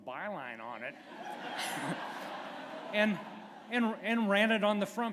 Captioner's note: laughter